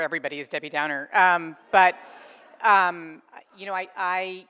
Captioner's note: audience laughs